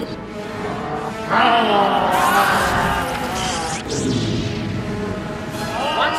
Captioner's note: roars